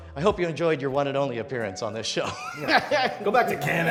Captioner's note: laughs